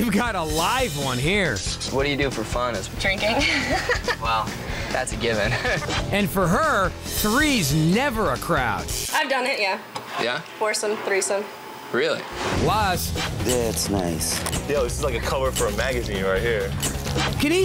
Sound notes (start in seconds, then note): 3.3 laughs